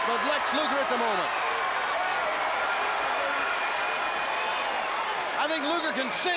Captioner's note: crowd cheering